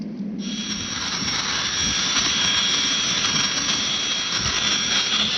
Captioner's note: machine whirring